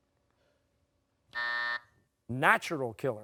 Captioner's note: buzzer